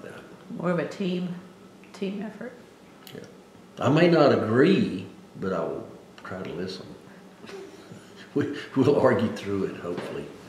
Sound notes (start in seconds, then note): 7.4 laughs